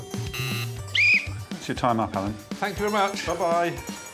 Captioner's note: buzzer; whistle blows